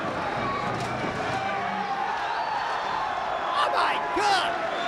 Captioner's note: spectators cheering